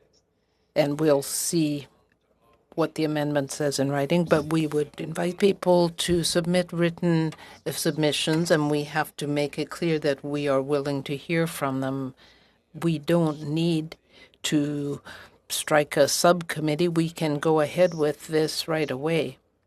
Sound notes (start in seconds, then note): 2.1 speaking French